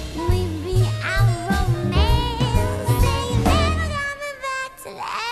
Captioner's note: none